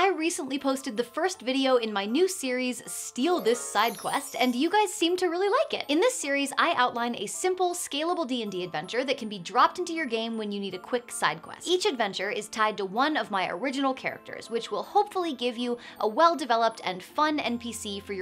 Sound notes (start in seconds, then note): 3.2 chimes tinkling